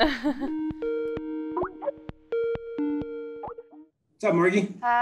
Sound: computer ringing

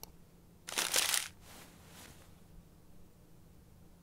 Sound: mouse clicking; paper rustling

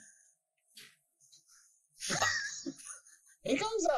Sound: laughs at her pain

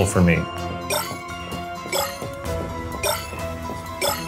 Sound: shards bleeping

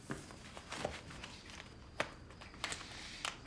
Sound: rustling

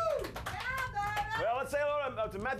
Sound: scattered Applause

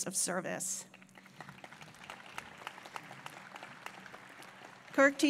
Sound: applause

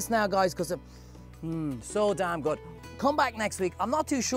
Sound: sniffs

